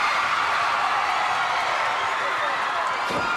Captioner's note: crowd cheering